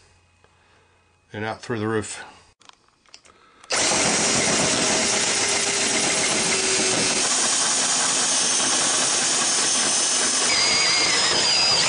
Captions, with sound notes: And out through the roof. (Drill sounds)